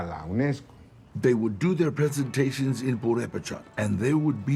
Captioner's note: in English